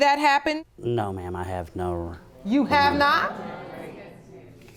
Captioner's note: audience murmuring